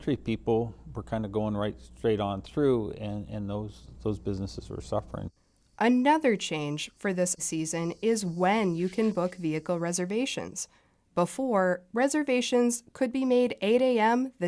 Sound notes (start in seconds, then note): 6.4 voice-over